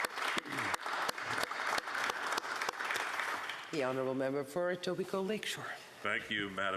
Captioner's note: applause